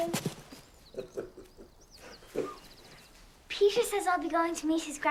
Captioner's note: chuckling